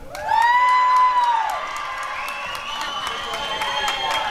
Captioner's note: applause and cheering